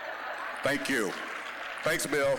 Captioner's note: audience laughing; scattered applause